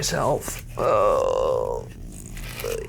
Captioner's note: exclaims